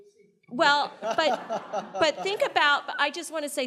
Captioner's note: panelists and audience laughing